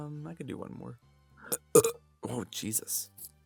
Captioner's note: burp